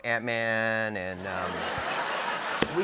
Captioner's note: laughter